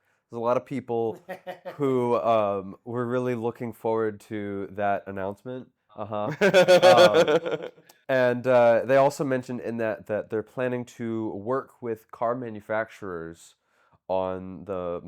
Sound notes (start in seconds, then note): 6.3 laughing